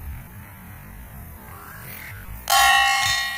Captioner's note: sling whips; loud metal ringing